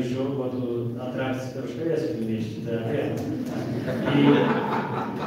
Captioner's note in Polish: śmiech z sali